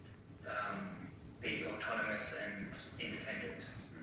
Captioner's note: audio distorts